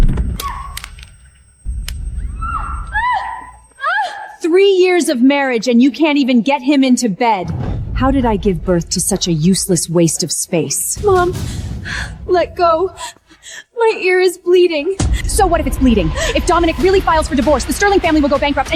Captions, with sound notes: at (screaming) Three years of marriage and you can't even get him into bed. How did I give birth to such a useless waste of space? Mom, let go. My ear is bleeding. So what if it's bleeding? If Dominic really files for divorce, the Sterling family will go bankrupt